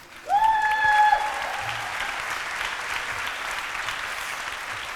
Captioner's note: cheering